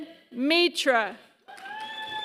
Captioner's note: applause